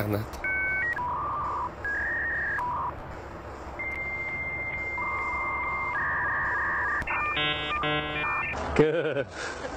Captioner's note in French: bruit de connexion